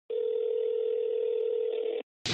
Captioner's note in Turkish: telefon sesi